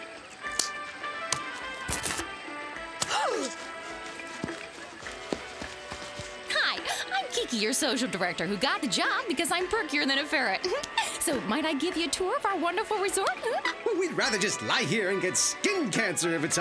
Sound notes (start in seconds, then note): 3.0 <i>gasps</i>